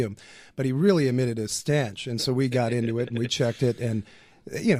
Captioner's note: laughs